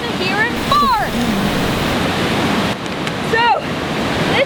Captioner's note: elephant farting sounds